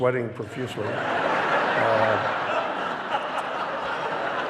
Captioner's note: audience laughing